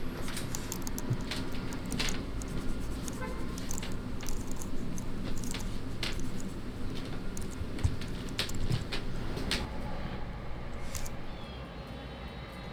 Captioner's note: sound of Typing on Keyboard